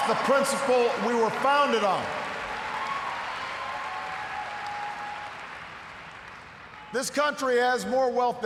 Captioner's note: cheers, applause